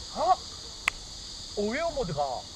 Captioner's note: clap